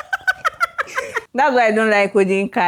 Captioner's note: laughs